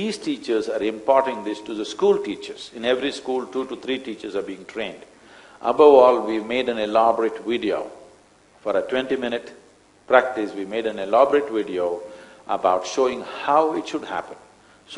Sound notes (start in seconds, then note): none